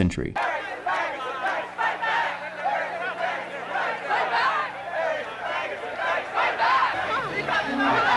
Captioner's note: chanting